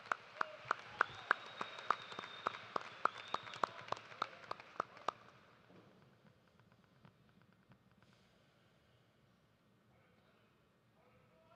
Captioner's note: cheers and applause